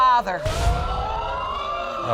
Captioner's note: audience exclaim